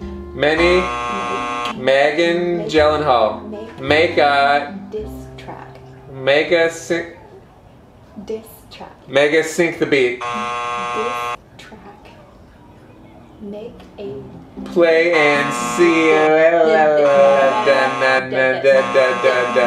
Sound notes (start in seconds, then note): 0.4 buzzer buzzing; 10.1 buzzer buzzing; 19.4 buzzer buzzing